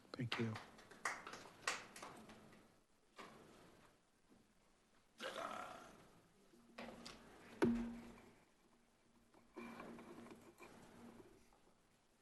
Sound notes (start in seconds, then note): 0.2 attendees applauding